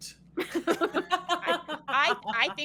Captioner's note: both laughing